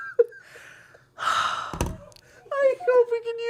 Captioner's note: sighs